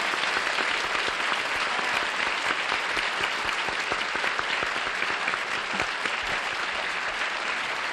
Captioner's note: applause